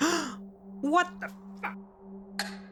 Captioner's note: gasp